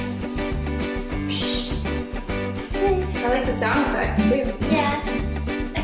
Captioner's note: ppsssshhhh